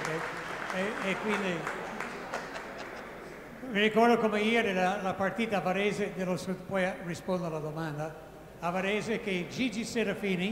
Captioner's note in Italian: Applauso